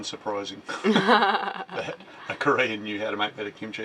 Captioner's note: laughing